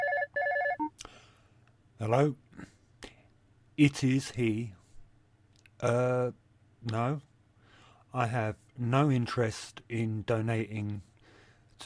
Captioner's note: phone ringing